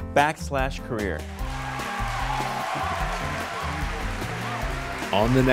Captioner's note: audience cheers